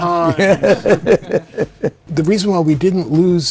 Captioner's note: all laughing